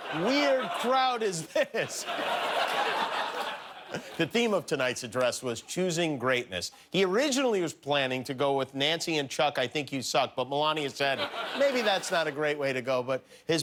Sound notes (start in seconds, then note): 0.0 cheers and applause; 2.8 laughter